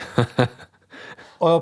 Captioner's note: laughing